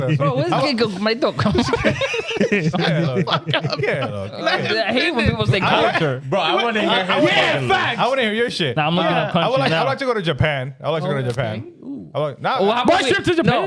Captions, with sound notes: Bro, where's my dog? (Laughing) I hate when people say culture. Bro, I wanna hear your shit. I wanna hear your shit. Nah, I'm not gonna punch you now. I'd like to go to Japan. I'd like to go to Japan. Ooh. I'd like to go to Japan?